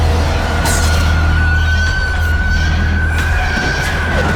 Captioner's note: demon screeching